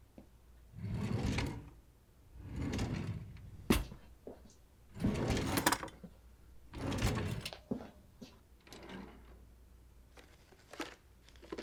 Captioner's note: opening and closing drawers, rifling through drawers